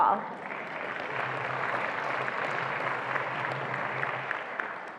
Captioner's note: attendees applauding